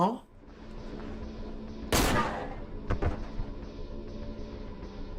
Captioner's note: gun firing